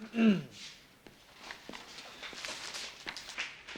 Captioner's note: clears throat